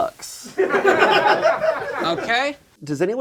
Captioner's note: background laughter